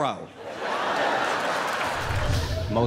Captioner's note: laughter